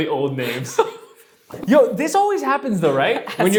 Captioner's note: laughs